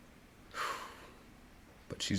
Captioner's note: sighs